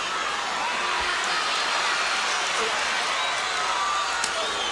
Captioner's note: crowd cheering